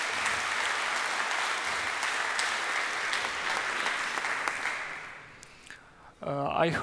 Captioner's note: applause